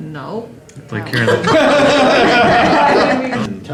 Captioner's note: laughter